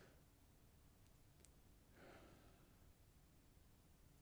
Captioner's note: mouse clicking